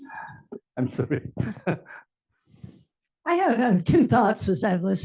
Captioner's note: laugh